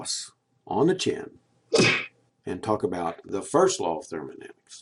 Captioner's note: punching sound